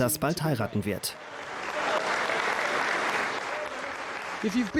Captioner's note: audience applauds